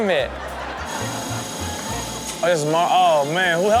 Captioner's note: construction equipment whirring